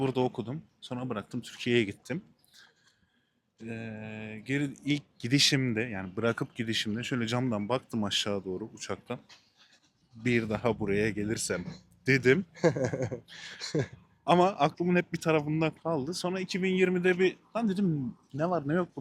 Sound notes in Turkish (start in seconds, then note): 12.5 kahkaha